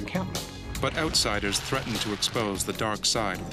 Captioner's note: voiceover